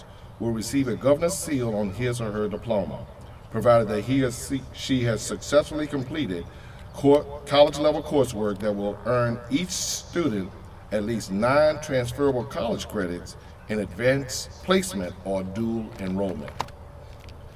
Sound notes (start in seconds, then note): none